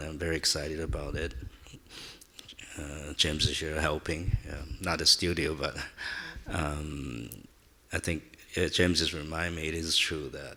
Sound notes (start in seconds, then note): 7.0 chuckles